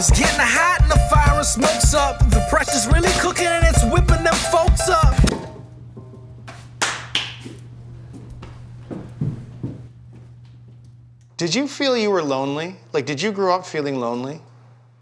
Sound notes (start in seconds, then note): 5.3 log thuds; 6.8 claps hands